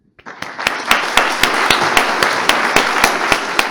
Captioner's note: applause